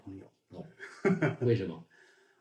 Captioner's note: laughing out loud